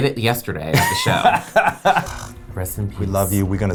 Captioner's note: laughs